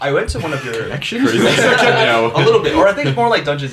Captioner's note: laughter